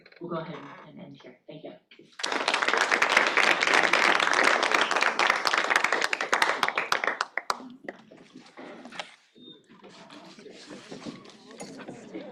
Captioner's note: applause